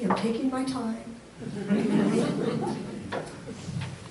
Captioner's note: audience laughs